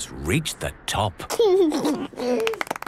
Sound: George giggles; clapping

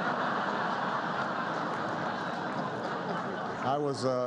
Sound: laughter

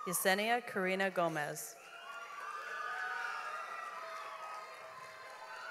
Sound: audience applauds

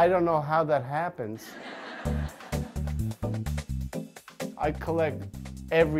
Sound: crowd laughs

